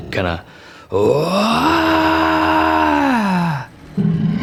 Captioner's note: roaring